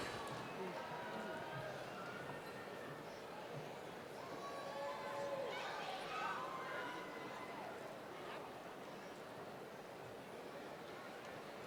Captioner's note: crowd Noise